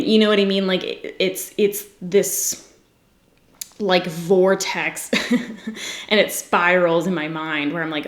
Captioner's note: giggles